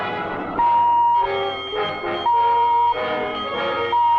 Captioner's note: bell ringing